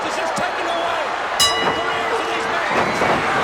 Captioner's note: bell rings